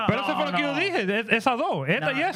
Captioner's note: speaking In Foreign Language